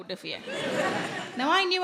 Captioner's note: audience laughing